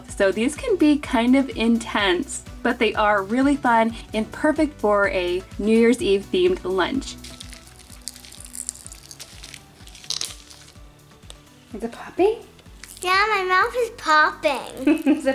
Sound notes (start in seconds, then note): 7.0 candy crackling; 14.8 laughing